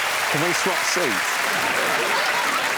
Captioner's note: applause